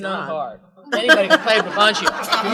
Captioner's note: laughter